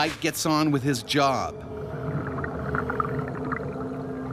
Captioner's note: voiceover